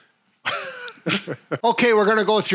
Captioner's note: both laughing